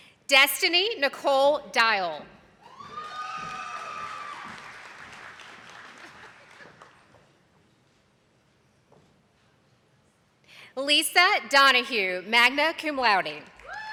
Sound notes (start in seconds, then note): 2.8 attendees clapping